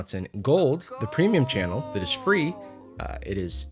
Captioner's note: disembodied voice